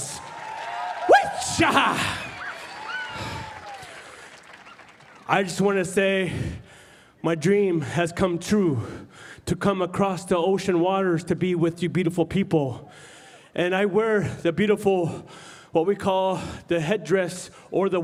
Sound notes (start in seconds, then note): 6.0 cheering